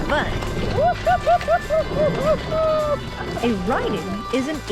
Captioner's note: laughing